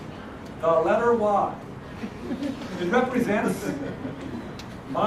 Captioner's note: laugh